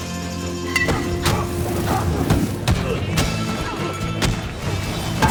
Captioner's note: scuffling and grunting